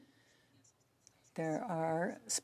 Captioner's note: speaking French